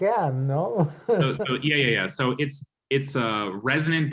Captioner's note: laughter